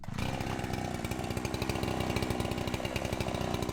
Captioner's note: chainsaw rumbling